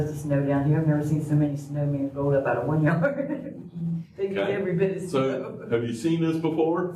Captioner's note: laughter